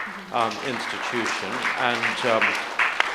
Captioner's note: audience applauds